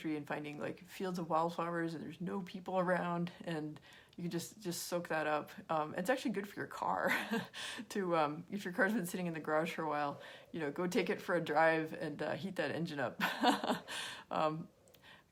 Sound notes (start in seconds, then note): 7.2 laughs; 13.2 laughs